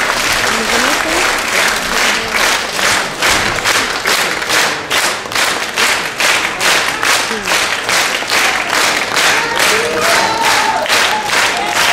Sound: stormy applause

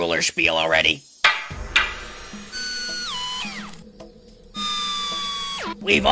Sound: cane tapping on wood, followed by machine whirring

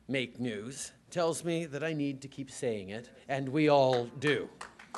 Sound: applause

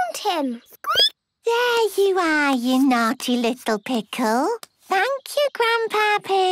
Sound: squeaking

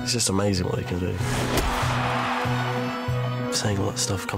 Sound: crowd cheers

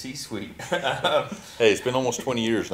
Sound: both laughing

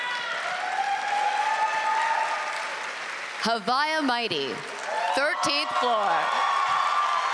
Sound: applause

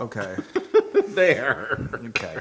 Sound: laugh

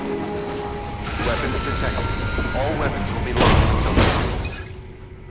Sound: PA system announcement

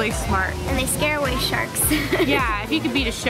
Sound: laughs

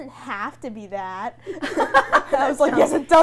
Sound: everyone laughing

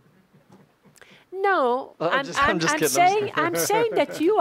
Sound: chuckles

